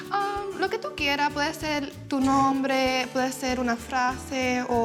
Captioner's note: speaking Spanish